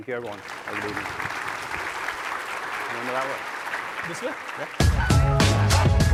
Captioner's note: applause; upbeat music